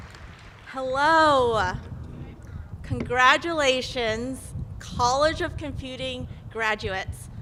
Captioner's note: applause